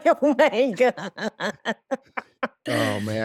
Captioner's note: laughing